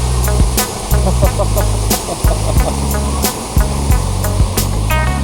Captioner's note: laugh